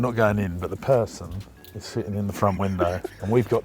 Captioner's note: laughing